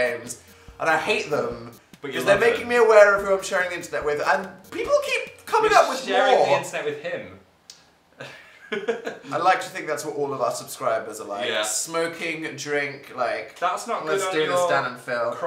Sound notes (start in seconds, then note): 8.2 laughs